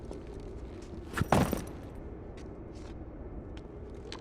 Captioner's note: bag thumps